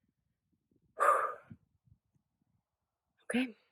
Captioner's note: sighs